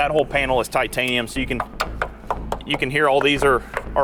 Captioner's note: knocking